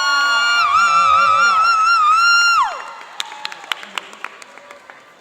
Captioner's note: cheering and applauding